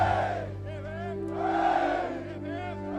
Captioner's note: cheering